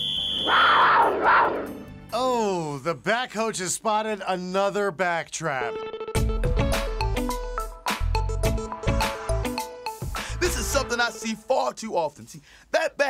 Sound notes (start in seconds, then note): 0.0 whistle; 2.5 back Coach Growls